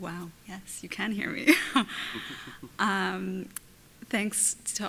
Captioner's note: laughs